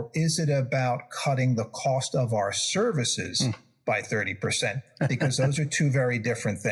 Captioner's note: laugh